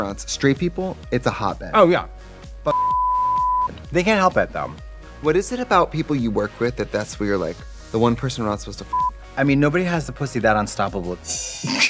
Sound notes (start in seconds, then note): 2.7 beep; 8.9 beep; 11.6 both laugh